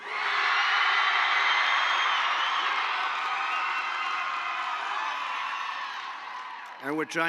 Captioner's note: applause